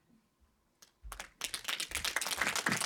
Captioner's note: applause